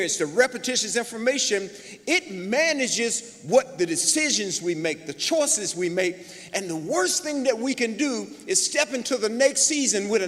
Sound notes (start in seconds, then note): none